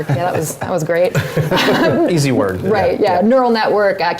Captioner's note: laugh